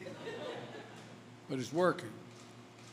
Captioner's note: laughter